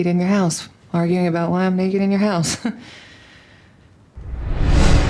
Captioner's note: laughs